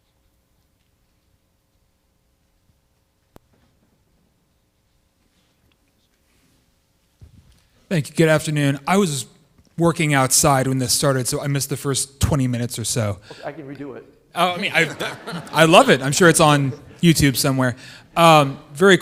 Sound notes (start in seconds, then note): 14.4 audience laughing